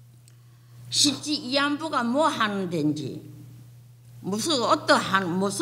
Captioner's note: speaking foreign language